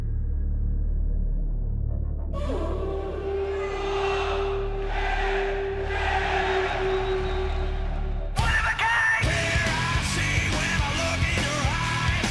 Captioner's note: crowd chatter